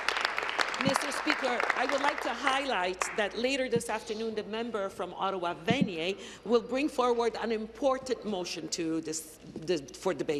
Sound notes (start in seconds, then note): 2.2 applause